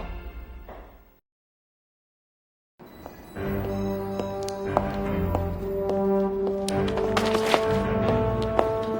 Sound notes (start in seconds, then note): 3.3 dramatic music; 4.0 clicking of footsteps